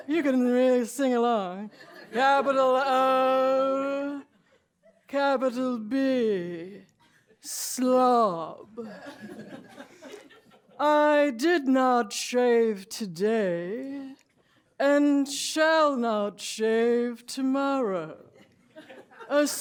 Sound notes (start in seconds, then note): 8.8 laughter